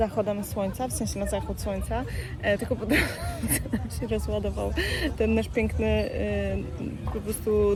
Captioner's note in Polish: śmiech